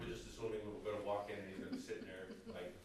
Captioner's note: background laughter